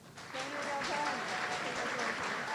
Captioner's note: audience applauding